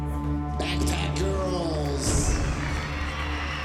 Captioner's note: cheering and applause